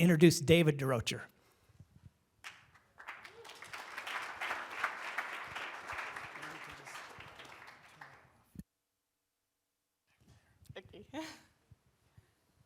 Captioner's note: applause